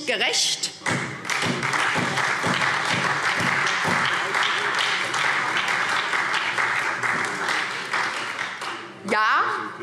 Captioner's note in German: Beifall SPD und vereinzelt Freie Demokraten